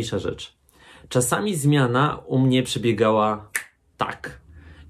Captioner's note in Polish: pstryknięcie palcem